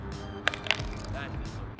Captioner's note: phone clatters